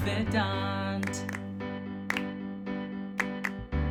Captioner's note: clapping